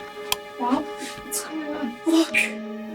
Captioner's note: switch clicks